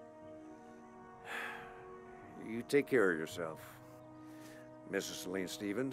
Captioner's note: sighs